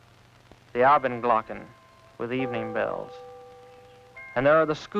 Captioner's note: non-english